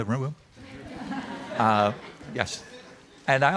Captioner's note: audience laughing